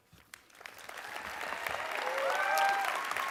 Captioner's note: applause